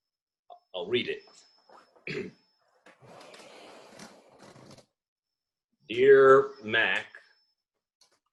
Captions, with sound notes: I -- I'll read it. [clears throat] 'Dear Mac--',